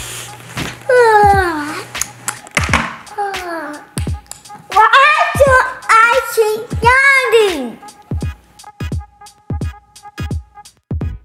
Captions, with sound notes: (Goo Goo Gaga yawns) (Goo Goo Gaga yawns) - Why do I keep yawning? (light jazz music)